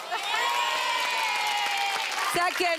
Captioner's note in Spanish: Aplausos; Exclamaciones